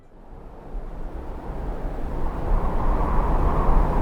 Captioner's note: wind blowing